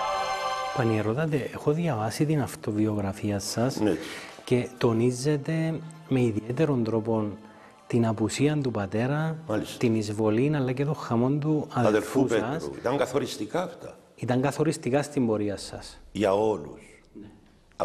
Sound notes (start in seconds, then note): 7.4 Turkish